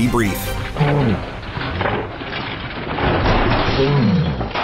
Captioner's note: metal clanks